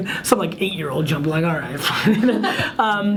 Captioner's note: laughs